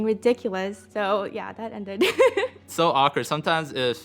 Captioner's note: laughing